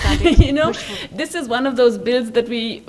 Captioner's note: laughs